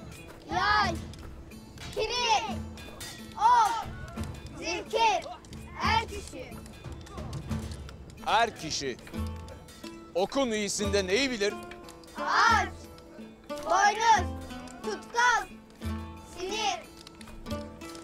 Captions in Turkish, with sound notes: (Hep bir ağızdan) Yay! Kiriş! Ok! Zihgir! Er kişi! Er kişi... ...okun iyisinde neyi bilir? (Hep bir ağızdan) Ağaç! Boynuz! Tutkal! Sinir!